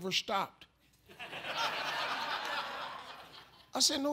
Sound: audience laughs

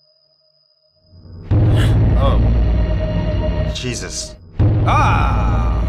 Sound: music intensifies; gasps

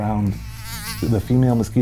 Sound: mosquito flying

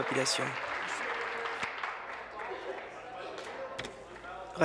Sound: applause

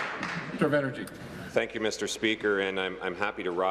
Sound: applause

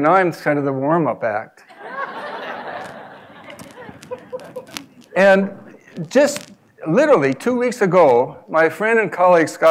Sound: laugh

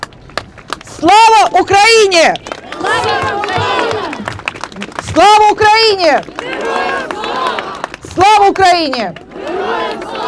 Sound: chanting

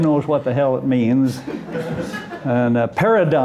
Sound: laughter

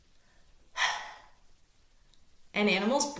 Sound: breathing out

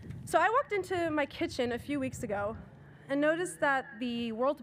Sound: none

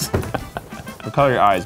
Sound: chuckles

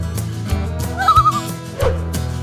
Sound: loon call

